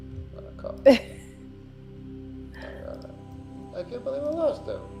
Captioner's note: faintly speaking; laughs